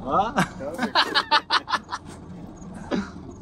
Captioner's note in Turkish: Kahkaha